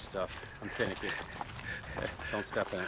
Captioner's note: laughs